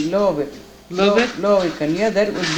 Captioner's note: non-english